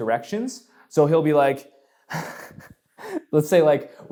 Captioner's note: laughs